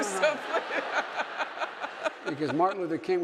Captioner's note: audience laughing